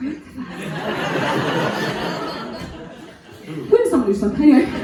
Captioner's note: audience laughing